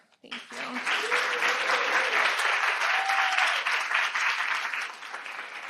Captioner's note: audience applauding